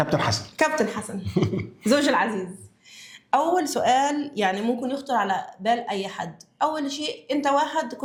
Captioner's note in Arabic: ضحك